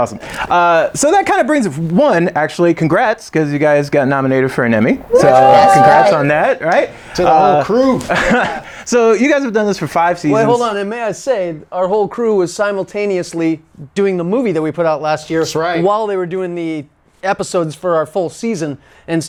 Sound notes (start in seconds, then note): 5.0 group cheers